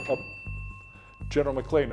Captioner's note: bell ringing